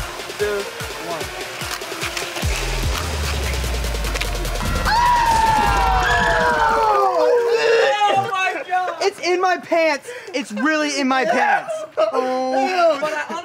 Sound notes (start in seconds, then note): 1.9 electronic music; 4.6 screaming and laughing; 12.5 groaning